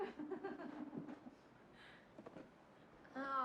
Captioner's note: laughter